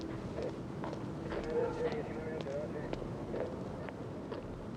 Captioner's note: muffled police radio chatter